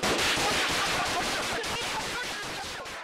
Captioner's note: gunfire